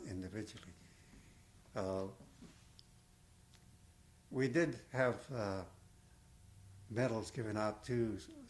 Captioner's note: pauses for 3 seconds